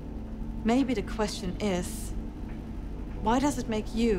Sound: wachine machine rumbling

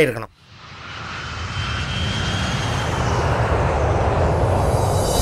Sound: engine roar

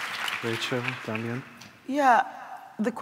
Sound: applause

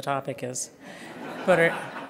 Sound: laughter

